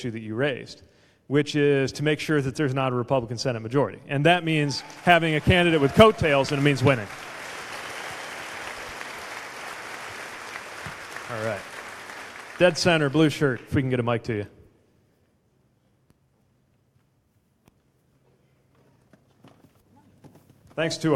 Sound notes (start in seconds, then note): 9.2 applause